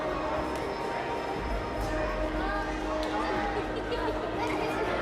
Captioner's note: children talking